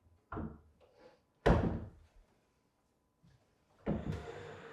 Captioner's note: cabinet thudding